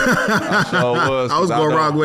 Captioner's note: laughing